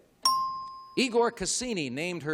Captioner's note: ding